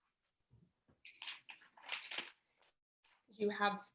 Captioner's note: pages fluttering